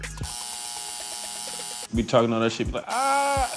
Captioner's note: buzzing